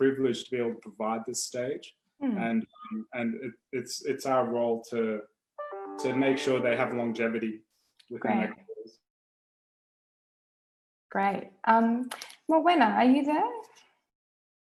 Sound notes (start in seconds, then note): 6.9 audio distorts